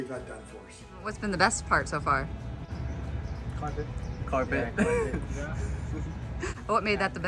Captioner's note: laughter